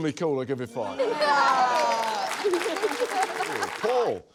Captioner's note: laughter; laughter, applause